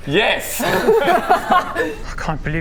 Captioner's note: obvious laughter